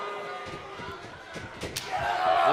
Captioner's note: crowd chatter